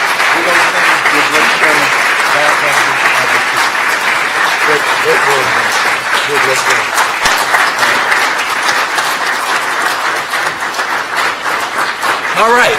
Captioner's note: applause